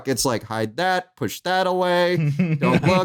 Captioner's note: chuckles